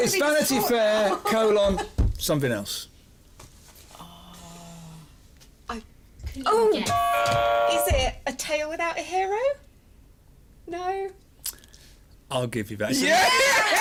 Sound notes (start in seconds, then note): 6.8 buzzer